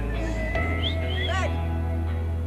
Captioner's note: silbatos